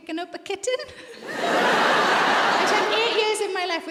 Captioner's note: audience laughs